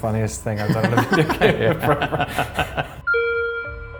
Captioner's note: laughing